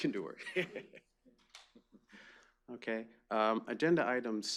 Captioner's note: laughs